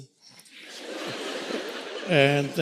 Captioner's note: audience laughing